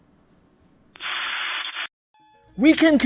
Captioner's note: white noise